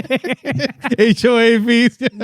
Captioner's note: laughing